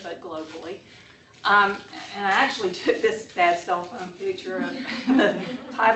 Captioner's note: laughter